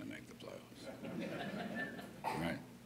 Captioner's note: laughter